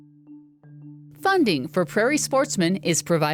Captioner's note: voiceover